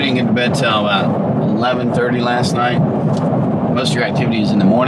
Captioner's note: none